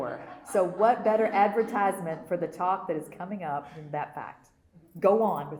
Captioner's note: laughter